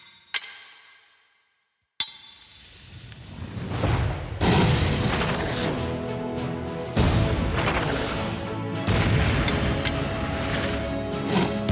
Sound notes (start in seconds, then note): 2.9 slow-motion gunfire